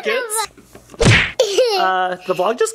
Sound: smacking noise

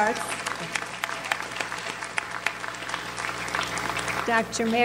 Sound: audience applauds

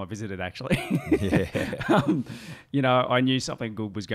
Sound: chuckling

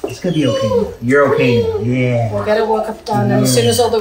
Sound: Macy whimpering

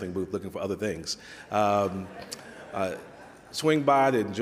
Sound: audience laughs

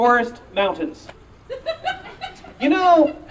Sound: audience member laughing

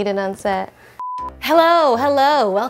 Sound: high-pitched beep

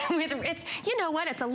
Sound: laughter

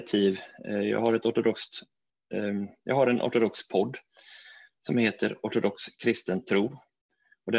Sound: in Swedish

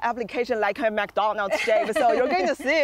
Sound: laughing

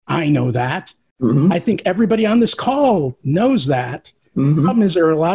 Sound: sounds of agreement

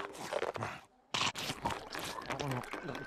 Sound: scrunching

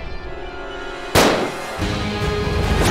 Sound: firing

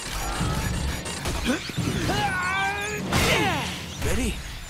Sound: grunting

